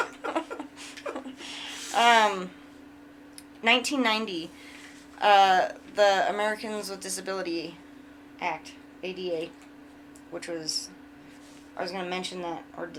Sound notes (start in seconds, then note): 0.0 laughing